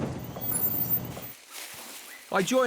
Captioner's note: truck brakes squeak